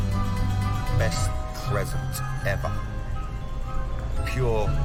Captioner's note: echoing